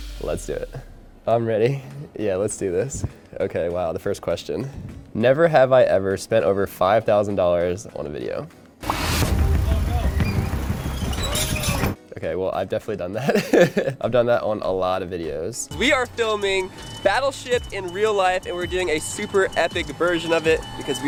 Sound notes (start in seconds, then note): 8.8 dramatic music; 8.9 digital popping; 13.2 laughing